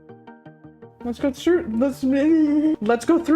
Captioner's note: stammers